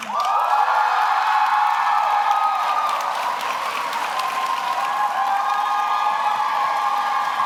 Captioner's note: audience applauds; audience cheers